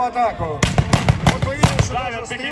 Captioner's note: gunshots